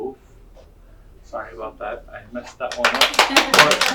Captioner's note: audience clapping